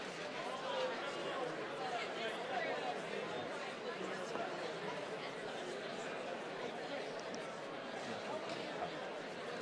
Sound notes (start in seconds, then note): 3.7 attendees chattering continues